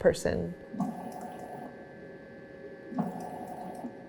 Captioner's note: pump pulsing